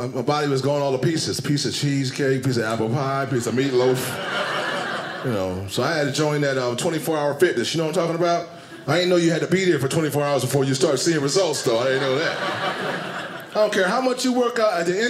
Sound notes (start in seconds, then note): 3.3 audience laughing; 11.4 audience laughing